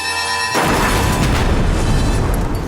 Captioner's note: explosion